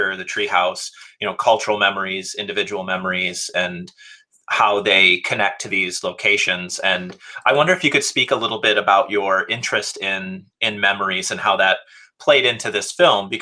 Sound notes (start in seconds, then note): none